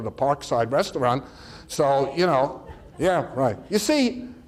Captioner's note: audience chatter